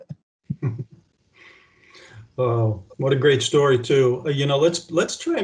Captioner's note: chuckles; laughs